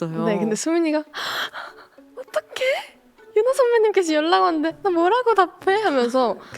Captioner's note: gasp